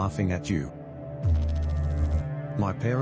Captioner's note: electrical noise